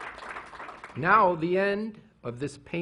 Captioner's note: applause